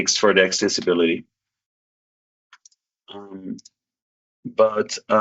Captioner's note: mouse clicking